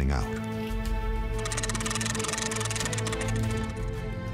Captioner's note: cranking; dramatic music playing